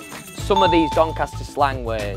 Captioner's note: bell chimes